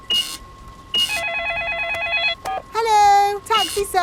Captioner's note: cash register beeping; beeps; cellphone ringing